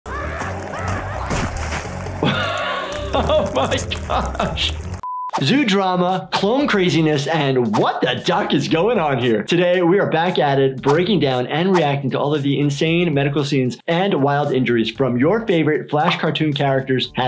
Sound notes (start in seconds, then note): 0.0 Handy screaming; 0.1 guts squelching; 2.2 laughing; 5.0 screen beeping